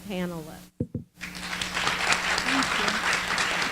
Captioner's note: applause